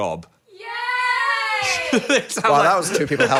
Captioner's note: in Unison; laughs